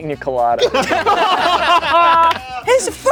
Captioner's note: everyone laughing